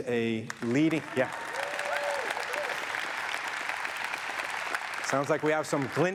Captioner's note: audience applauds and cheers